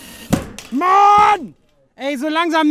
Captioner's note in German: brüllt